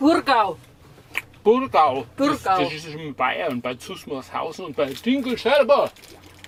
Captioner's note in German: Dialekt